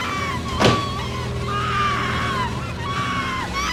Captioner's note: Ginger screaming